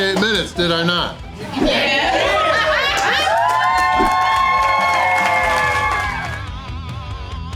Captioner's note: crowd cheering